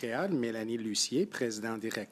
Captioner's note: speaking French